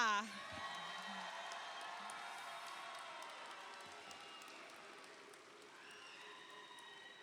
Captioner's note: audience cheers; audience applauds